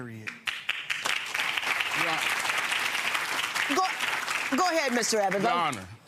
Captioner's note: audience clapping